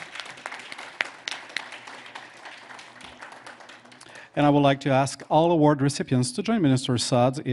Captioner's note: applause